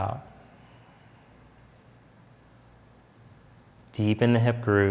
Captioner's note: exhaling deeply